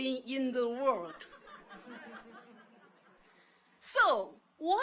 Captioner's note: audience laughs